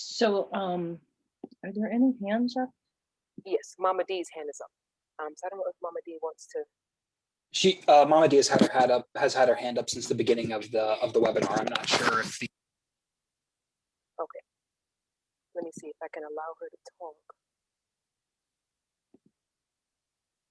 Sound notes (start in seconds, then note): 13.3 audio drops